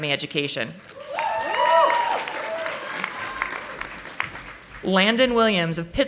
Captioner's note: audience applauding